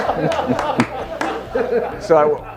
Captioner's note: audience laughing